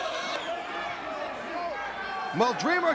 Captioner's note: crowd cheering